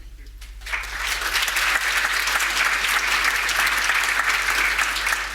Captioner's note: audience applauding